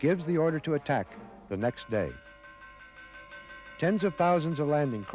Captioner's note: bell clangs